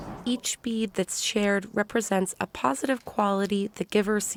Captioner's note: voice-over